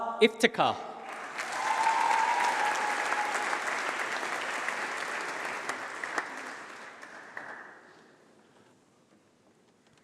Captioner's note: applause